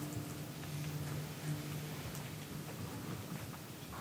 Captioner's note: bell tolls